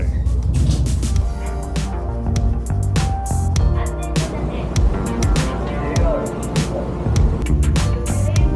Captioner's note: overhead announcements